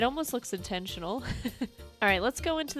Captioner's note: chuckles